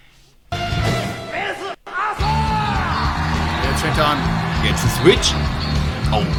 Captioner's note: applause